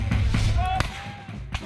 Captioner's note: gunfire